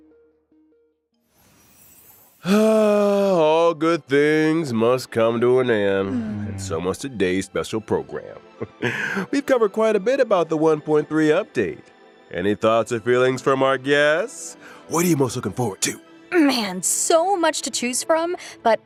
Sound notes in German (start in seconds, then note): 2.4 seufz